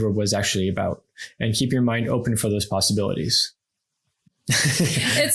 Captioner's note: laughs